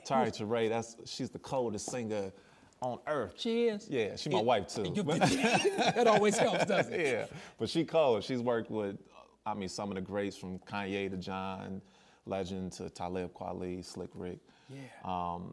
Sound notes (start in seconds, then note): 4.9 laughs